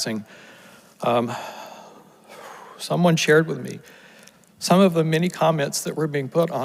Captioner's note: exhales